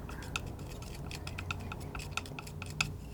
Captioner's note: scratching